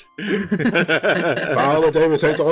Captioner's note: laughter